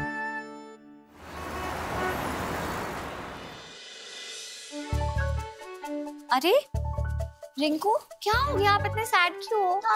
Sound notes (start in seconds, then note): 1.1 traffic noise